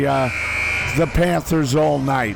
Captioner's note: buzzer buzzes